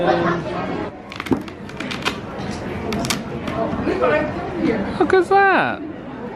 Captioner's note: velcro snapping